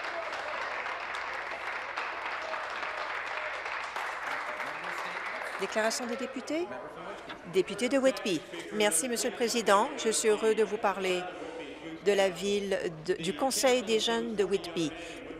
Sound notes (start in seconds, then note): 3.4 some Applause